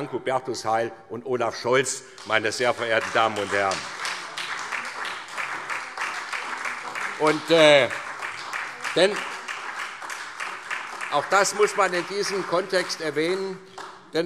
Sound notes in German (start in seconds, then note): 4.6 Lebhafter Beifall SPD